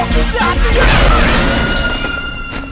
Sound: scream echoing

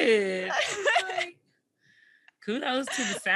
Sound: laughs

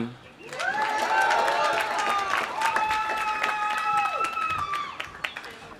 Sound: audience cheering; audience applauding

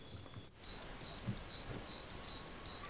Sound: crickets

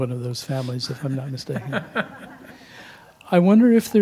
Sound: laugh

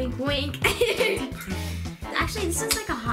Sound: laughs

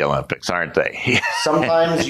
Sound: laughs

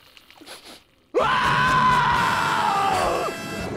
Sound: screaming

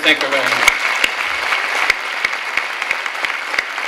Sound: clapping

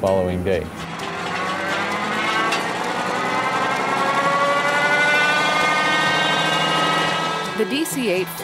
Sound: engine starts

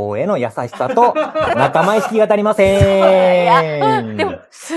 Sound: laughs

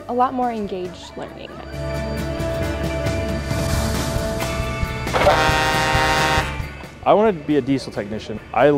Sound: horn SFX

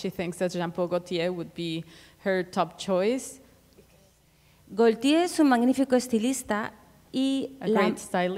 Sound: speaking Spanish

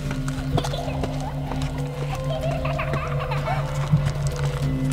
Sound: child laughing eerily

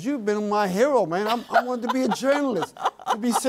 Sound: laughs

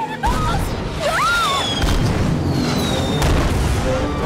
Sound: panicked screaming

